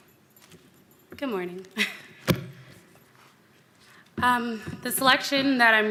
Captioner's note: chuckles